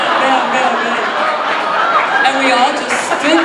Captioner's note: audience laughing